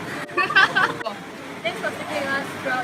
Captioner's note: giggling